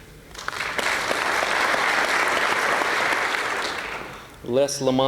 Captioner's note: applause